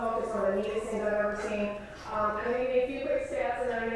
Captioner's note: none